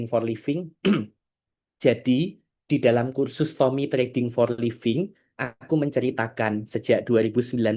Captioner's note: berdehem